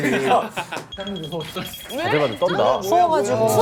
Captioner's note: shivering